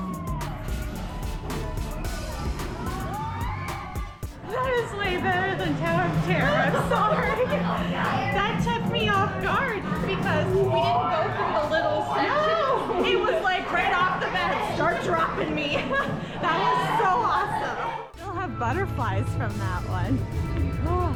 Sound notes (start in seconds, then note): 5.7 laughs